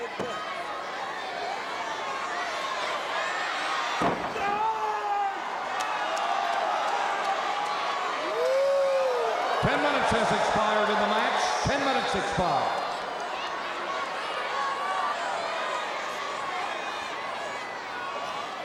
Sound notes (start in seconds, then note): 3.8 wrestlers grunting